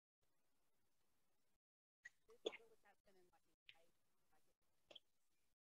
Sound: faintly speaking

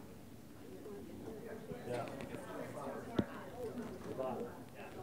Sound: voiceover

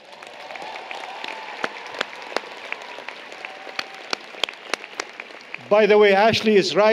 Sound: applause, Cheering

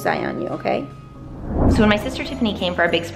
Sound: whooshing

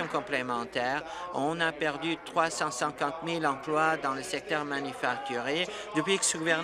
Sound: applause

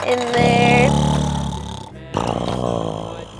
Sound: snoring

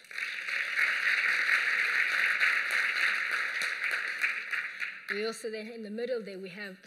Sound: applause

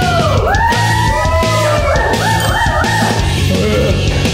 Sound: crew members cheering and hyping; gags

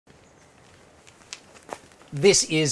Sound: footsteps

